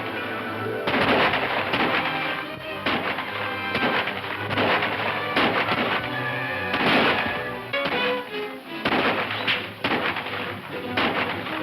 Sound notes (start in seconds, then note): 0.1 dramatic music; 3.5 guns firing